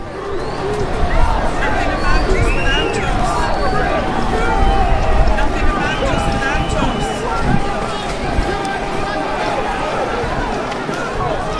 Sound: sound of crowds, people shouting 'nothing about us without us'. Fade to end

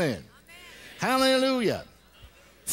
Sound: congregation: "amen."

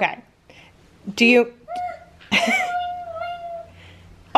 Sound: laughs

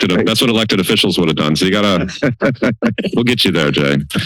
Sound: laughter

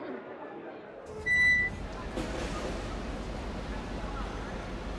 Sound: crowd chattering; door squeaks

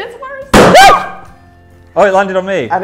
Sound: screams

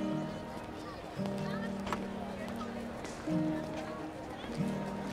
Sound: indistinct chatter

